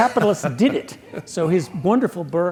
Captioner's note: laugh